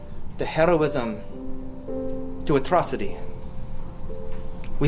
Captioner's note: none